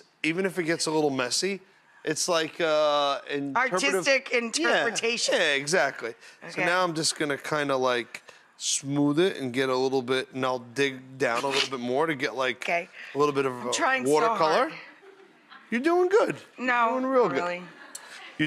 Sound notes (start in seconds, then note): 11.3 Rachael snorts; 15.0 laughter from audience